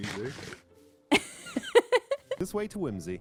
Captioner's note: laughs